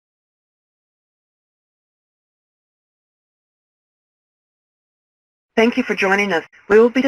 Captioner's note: silence